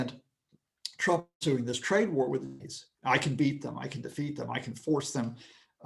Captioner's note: connection lost